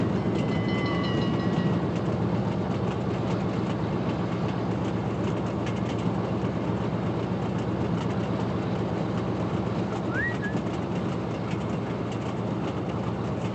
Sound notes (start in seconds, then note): 10.0 whistles